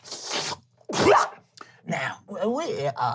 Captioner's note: slurping and coughing